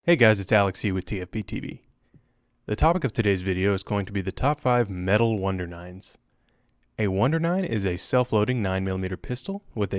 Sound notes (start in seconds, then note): 0.2 voiceover